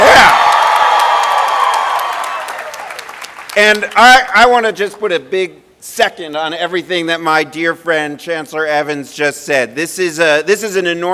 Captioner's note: cheering and applause